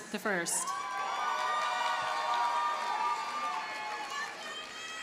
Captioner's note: audience cheers and applauds